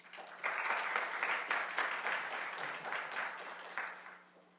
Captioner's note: audience applauds